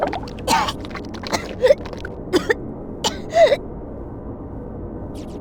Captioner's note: vomit